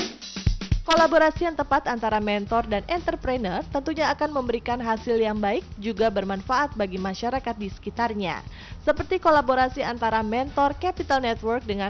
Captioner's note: non-english speech